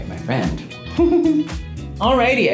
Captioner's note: Laverne laughs